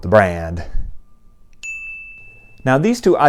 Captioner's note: chime